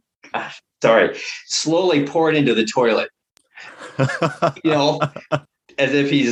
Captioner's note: laughter